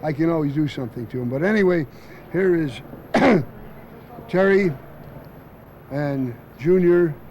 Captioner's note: cough